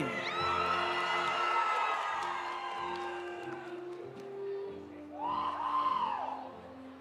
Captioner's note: audience cheering; audience applauding